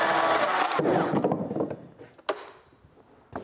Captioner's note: the whirring stops